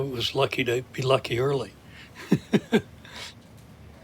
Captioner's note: laughs